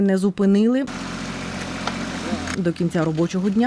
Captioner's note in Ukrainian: Шум будівельної техніки